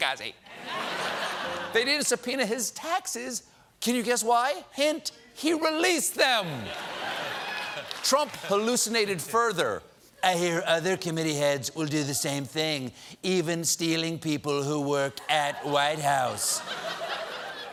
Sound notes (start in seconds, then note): 6.6 laughter